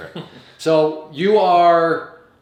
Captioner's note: laughing